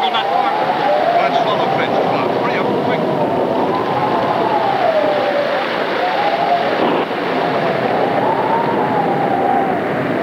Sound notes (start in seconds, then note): 4.5 storm raging